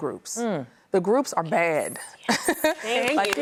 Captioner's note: laughs; claps